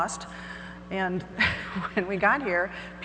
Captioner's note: laughs